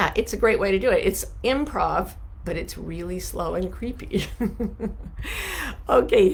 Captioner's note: laughs